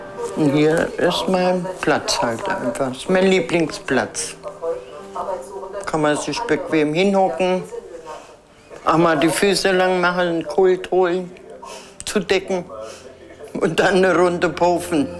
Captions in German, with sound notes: Hier ist mein Platz halt einfach, ist mein Lieblingsplatz. (Geräusche aus dem Fernseher) Kann man sich bequem hinhocken. Auch mal die Füße lang machen, ein Kult holen. Zudecken und dann eine Runde pofen.